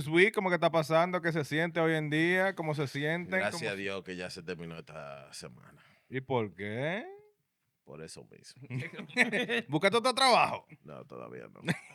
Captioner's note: speaking Spanish